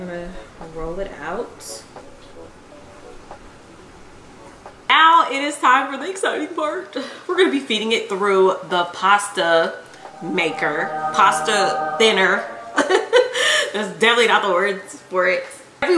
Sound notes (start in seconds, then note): 9.9 hymnal music; 12.8 giggles